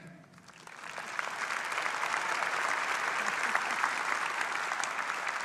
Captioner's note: audience applause